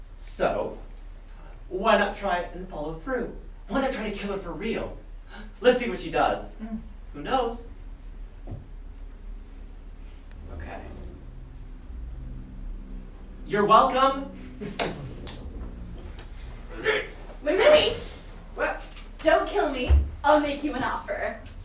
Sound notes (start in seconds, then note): 15.2 emcee snaps their fingers